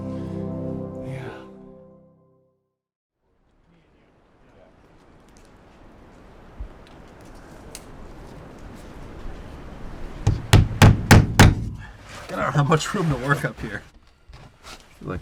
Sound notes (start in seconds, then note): 10.2 hammer banging